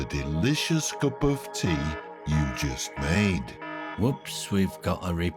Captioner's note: alarm siren ringing